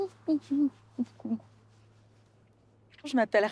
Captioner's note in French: chantonnement